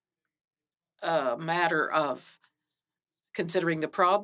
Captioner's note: speaking French